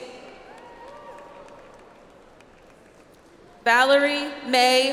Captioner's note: audience applauds